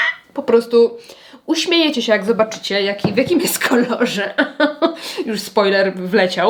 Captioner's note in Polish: śmiech